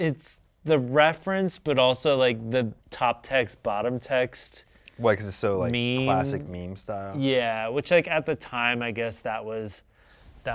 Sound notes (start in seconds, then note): none